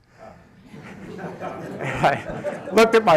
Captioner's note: laughter